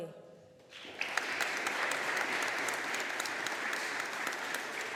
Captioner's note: audience applauding